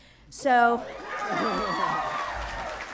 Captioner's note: applause